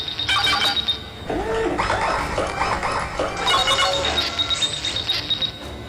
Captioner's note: mechanical whirring